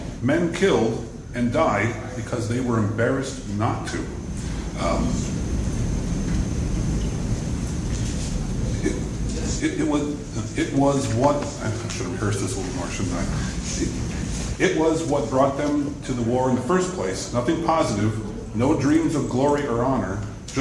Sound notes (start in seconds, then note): 8.8 stutters